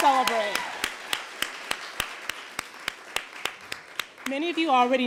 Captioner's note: applause, cheers